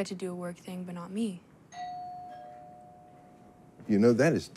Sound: doorbell rings

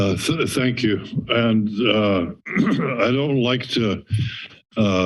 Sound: clears throat

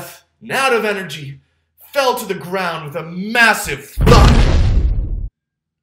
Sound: boom

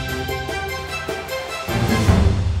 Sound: crowd cheering

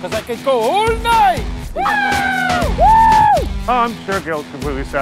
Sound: cheering

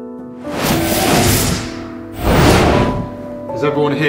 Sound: whirring

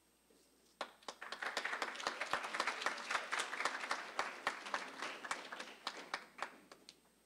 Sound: applause

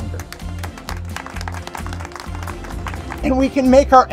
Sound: crowd clapping

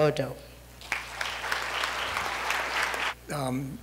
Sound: applause

